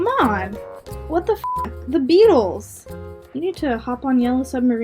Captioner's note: beep